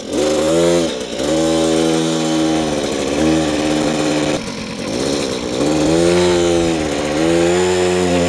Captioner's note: stutters